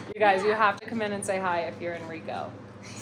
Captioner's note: laughs